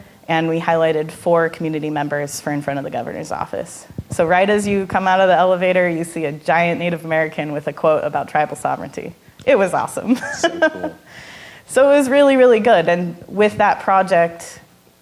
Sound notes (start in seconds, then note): 10.1 laughing